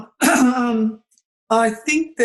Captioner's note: clears throat